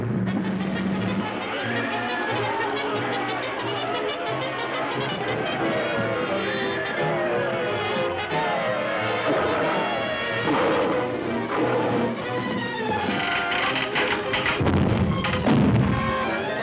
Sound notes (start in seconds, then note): 1.0 crowd screaming; 13.0 creaking; 13.2 crash